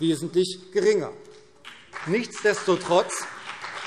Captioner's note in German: Beifall CDU und BÜNDNIS 90/DIE GRÜNEN